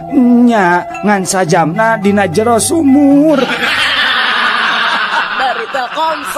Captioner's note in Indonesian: tertawa